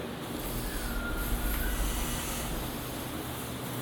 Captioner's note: whistle